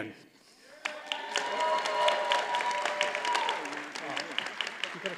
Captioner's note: audience cheers and applauds